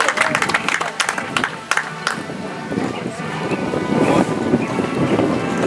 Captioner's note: audience applauds